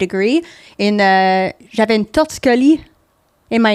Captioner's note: in french